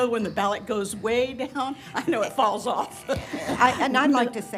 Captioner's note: laughter